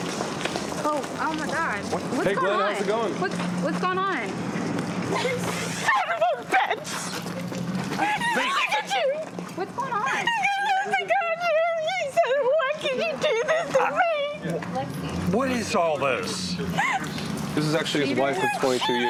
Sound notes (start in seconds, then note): 10.1 crying